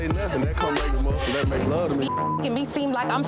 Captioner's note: beep